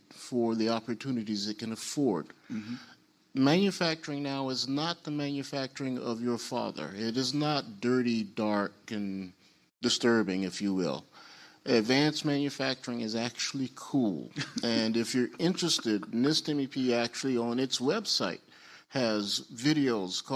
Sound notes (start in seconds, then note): 14.6 panelists laugh